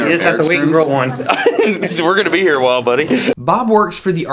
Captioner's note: laughing